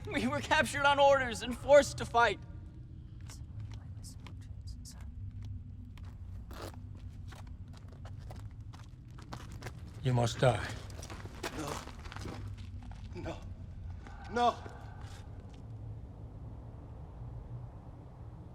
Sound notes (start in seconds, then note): 3.4 whispers